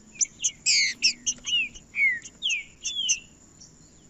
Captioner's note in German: trinca ferro cantando